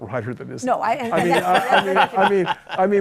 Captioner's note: laughter